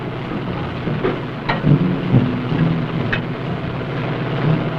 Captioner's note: speaking in foreign language